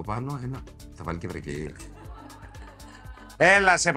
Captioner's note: laugh